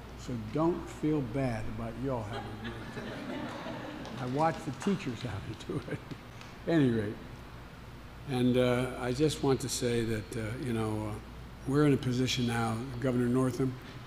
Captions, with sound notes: So don't feel bad about you all having to do it too. (Laughter.) I watch the teachers have to do it. Any rate -- and I just want to say that, you know, we're in a position now -- Governor Northam,